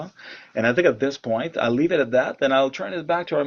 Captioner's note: returns to English